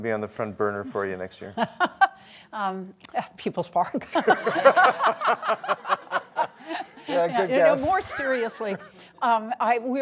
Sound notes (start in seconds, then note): 1.8 laughs; 4.1 laughter